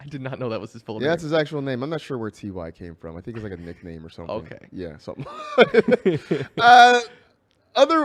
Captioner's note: laughs